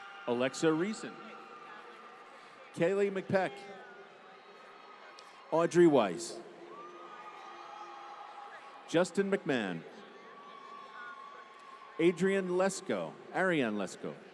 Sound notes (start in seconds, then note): 0.0 applause; 3.7 applause